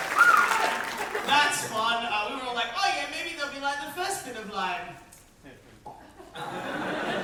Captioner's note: audience woohoos and applause; mouth pop; audience laugh